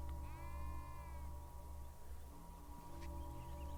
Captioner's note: sheep bleating